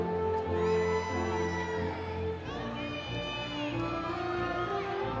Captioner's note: audience cheering